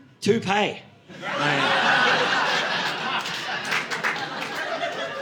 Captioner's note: audience laughing